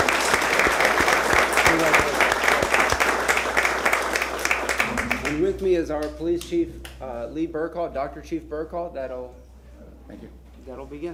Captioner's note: applause